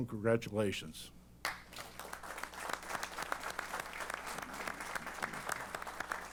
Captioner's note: applause